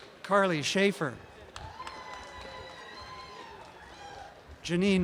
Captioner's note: applause and cheering